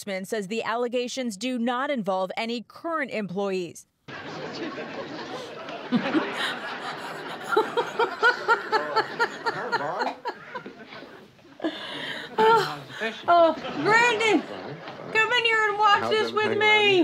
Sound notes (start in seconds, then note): 4.5 audience laughing on TV; 4.5 laughing